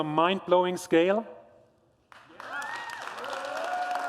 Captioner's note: applause